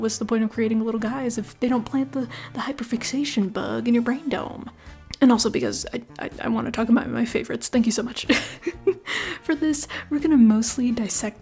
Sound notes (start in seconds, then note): 8.2 laughter